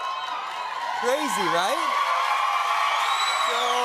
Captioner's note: cheers and applause